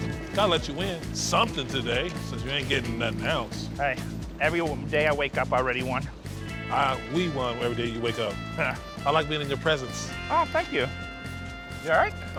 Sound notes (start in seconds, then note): 7.9 laughs